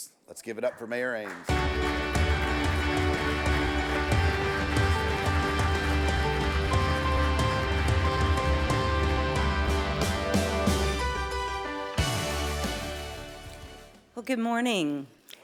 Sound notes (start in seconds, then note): 1.3 audience applauds; 1.3 bright music